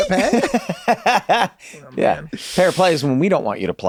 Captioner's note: laughs